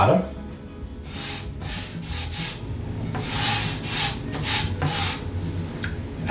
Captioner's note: scratchy noise of flour rubbing